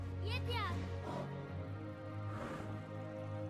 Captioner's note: boy shouts